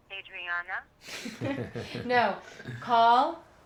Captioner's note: laughing